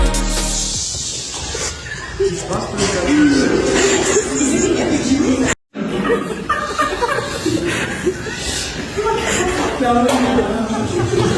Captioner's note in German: gelächter